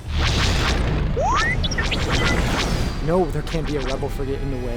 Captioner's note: R7 beeping